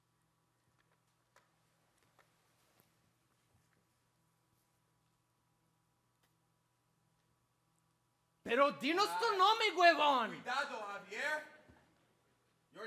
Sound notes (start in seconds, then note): 8.4 angrily speaks in Spanish; 11.0 speaks in Spanish